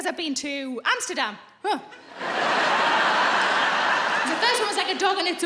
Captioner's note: laughing